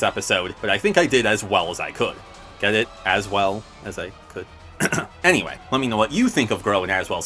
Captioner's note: clears throat